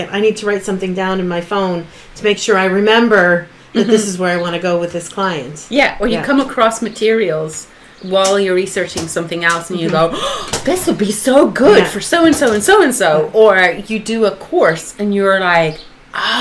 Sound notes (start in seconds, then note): 10.1 gasp